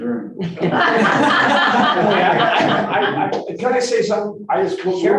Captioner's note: group laughing